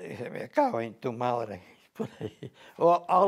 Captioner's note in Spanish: Risas